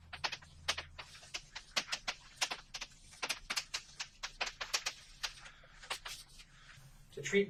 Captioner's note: writing on chalkboard sounds